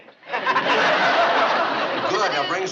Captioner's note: laughter